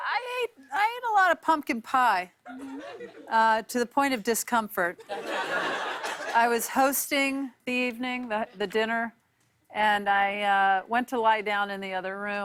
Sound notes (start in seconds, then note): 5.0 laughter